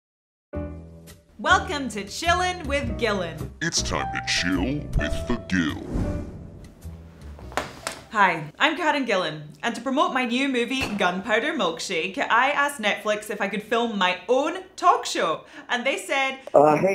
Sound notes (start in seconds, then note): 3.8 deep Altered Voice; 7.4 drops remote